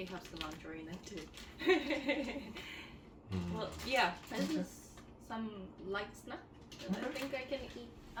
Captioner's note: laugh